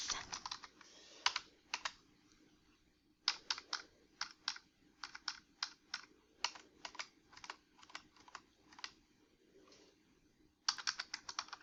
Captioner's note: typing on keyboard